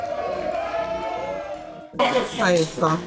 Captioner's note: cheering